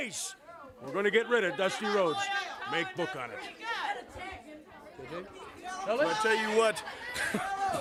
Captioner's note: crowd cheering